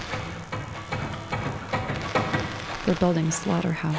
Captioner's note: hammering